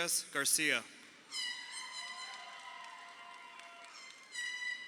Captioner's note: crowd cheering